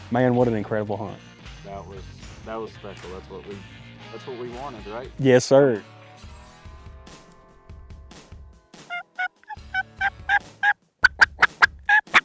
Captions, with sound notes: - Man, what an incredible hunt that was. - That was special. That's what we- That's what we wanted, right? - Yes sir. (turkey gobbles)